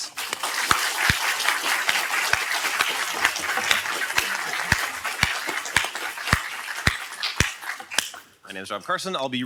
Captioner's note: applause